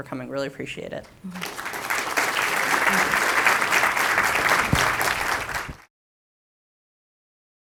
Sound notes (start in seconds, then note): 1.3 audience applauding